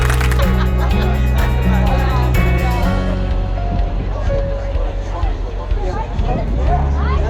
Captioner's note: crowd murmuring